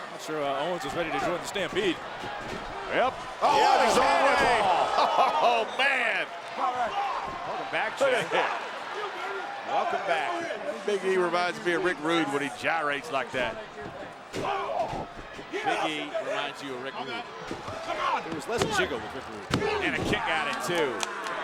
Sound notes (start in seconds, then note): 3.3 commentators exclaim; 4.6 laughs